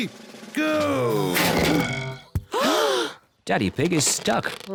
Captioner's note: oinks; clunks; all gasp